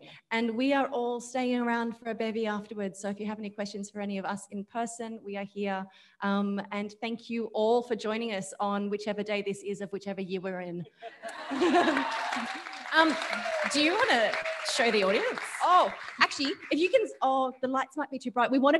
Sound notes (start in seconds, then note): 11.0 audience laughing; 11.2 audience applauding